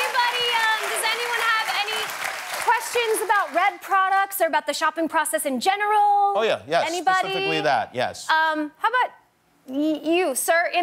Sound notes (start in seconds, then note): 2.7 cheers and applause